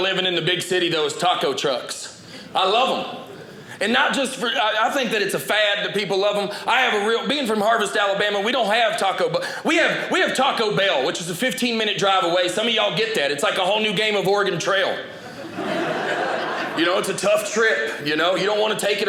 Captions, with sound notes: in the big city though is taco trucks. I love them and not just for-- I think that it's a fad that people love them. I have a real-- being from Harvest, Alabama, we don't have taco, but we have we have Taco Bell which is a 15 minute drive away. Some of you all get that. It's like a whole new game of Oregon trail. (audience laughing) It's a tough trip. You don't want to take it